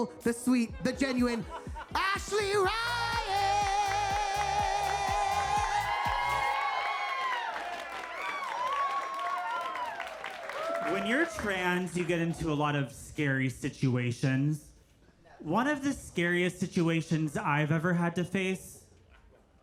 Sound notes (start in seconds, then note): 6.3 audience cheers